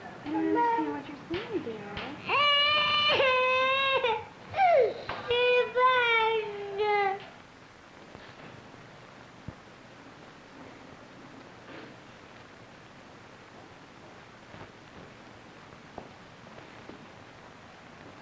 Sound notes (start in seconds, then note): 0.0 Spanish speaking; 2.2 crying; 5.3 Spanish speaking